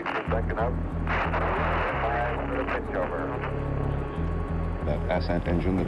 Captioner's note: radio static crackles